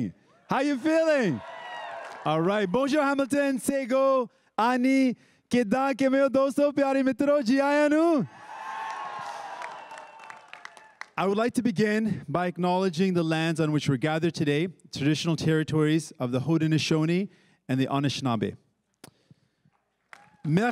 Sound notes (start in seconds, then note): 2.6 crowd cheering and applauding; 5.4 speaking in Indigenous language; 8.3 crowd cheering and applauding